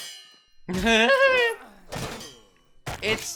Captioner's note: laugh